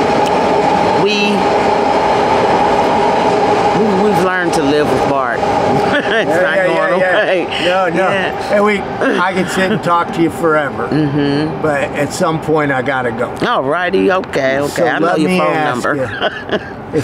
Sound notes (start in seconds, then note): 5.7 laughing